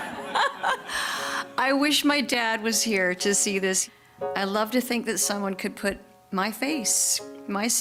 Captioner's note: laughter